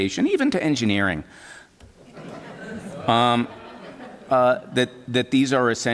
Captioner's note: laughter